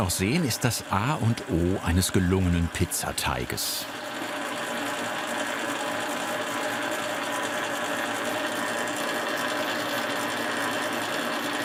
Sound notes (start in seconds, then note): 5.3 loud machine rattling